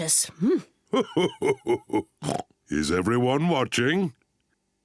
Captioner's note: laughing